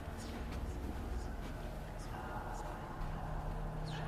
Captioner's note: voices echo